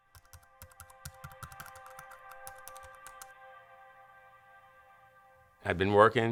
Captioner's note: keyboard typing; light music